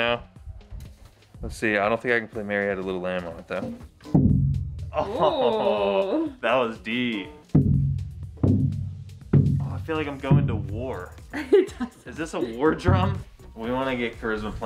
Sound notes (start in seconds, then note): 4.7 deep drum beat; 5.0 exclaiming; 12.1 deep drum beat